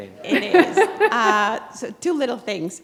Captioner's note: chuckle